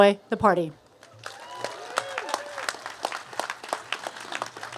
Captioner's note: cheers and applause